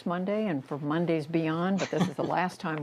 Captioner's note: laughter